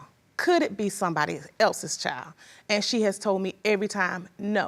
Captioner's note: none